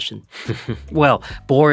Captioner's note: giggles